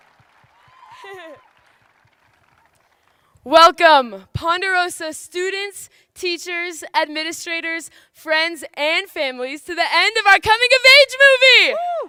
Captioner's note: cheers and applause